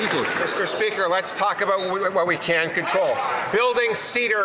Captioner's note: some Applause